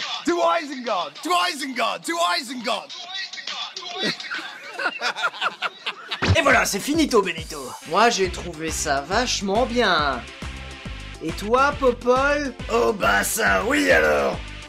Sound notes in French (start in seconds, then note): 3.8 rires